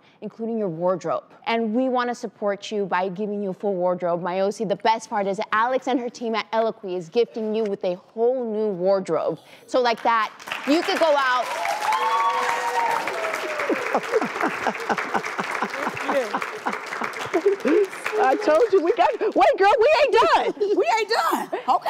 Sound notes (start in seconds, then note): 11.2 applause; 13.6 laughter